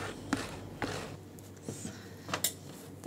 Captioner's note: whispering